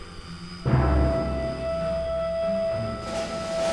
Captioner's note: drone engine